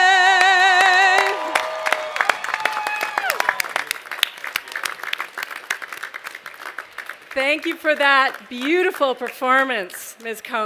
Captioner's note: cheers and applause